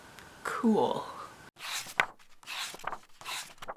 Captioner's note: pages turning